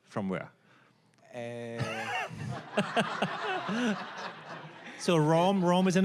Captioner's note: all laughing